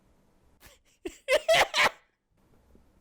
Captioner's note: cackles